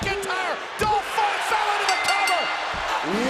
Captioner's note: bell chimes